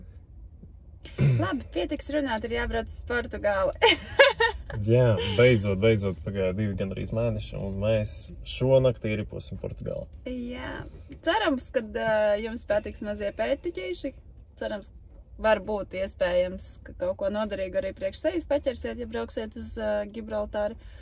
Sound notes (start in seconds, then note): 3.9 laughs